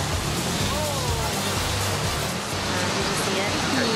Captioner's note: waves crashing